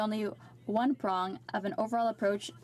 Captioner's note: speaking French